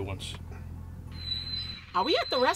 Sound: brakes squeal

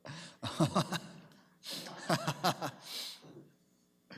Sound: Mayor laughs

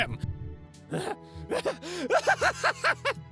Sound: Kanato laughing like a crazy fu

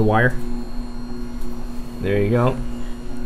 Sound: machine whirring continues

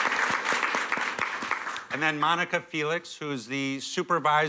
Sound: applause

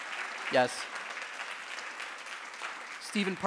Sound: audience cheering and applauding; audience applauding

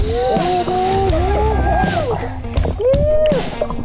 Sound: rock music continues; water swishing; screaming

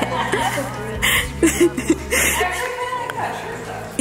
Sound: laughing

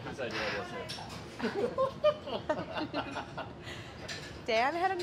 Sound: men laughing

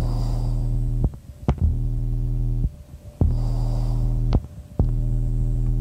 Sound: breathing through respirator

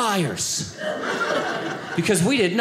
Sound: audience laughing

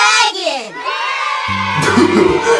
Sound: kids cheering; Doofy laughing

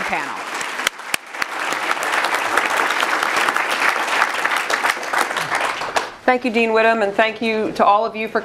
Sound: applause

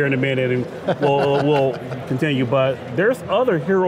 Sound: laughter

